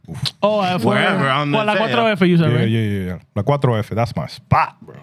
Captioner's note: speaking Spanish